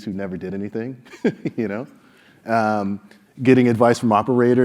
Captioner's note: laugh